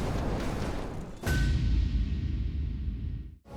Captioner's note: clanging